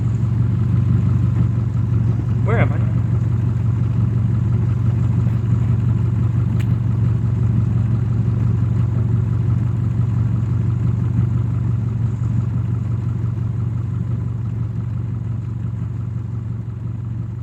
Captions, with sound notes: Where am I? (engine revving)